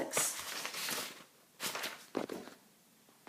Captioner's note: shuffling